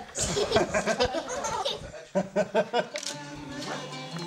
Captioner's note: man and child laughing